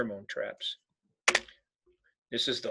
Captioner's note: keyboard clicking